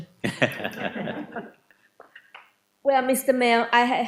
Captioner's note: laughing